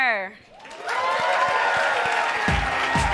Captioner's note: audience applauds; upbeat music